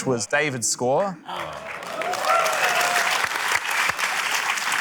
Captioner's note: cheering, applause